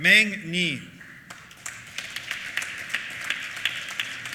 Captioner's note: applause